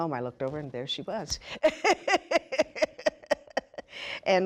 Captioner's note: laughing